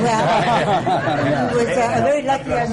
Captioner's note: laughter